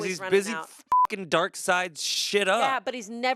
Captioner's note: beep